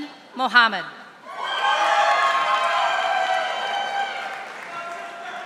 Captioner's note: audience applauding